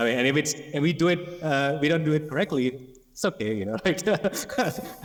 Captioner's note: laughs